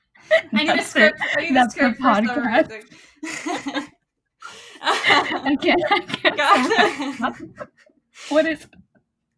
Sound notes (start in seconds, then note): 0.3 laughs; 4.8 more laughter, help